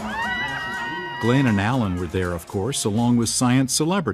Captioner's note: team cheering